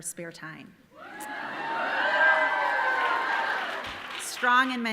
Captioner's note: audience cheering